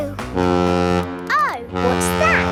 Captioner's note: horn bellowing